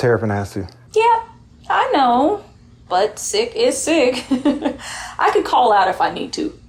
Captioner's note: giggles